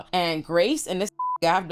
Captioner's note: beep